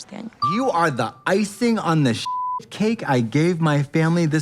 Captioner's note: beep